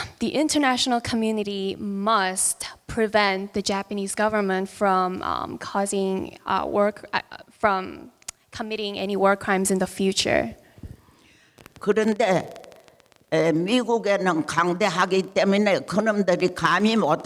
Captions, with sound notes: The international community must prevent the Japanese government from committing any war crimes in the future. (speaking in foreign language)